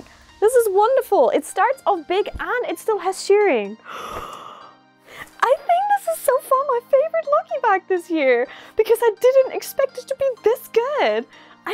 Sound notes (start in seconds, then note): 3.8 gasp